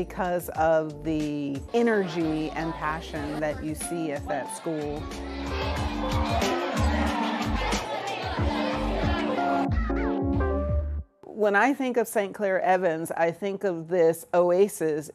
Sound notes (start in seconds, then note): 5.1 kids chattering